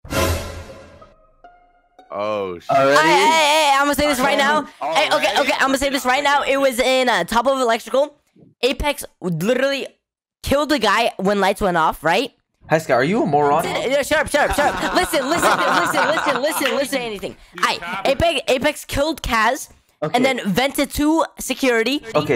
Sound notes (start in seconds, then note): 0.0 thriller music; 14.3 hysterical laughter